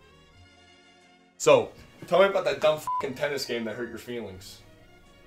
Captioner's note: beeps